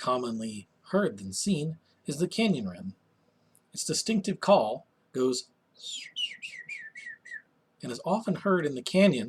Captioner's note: bird call